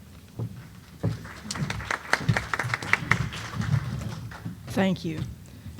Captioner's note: applause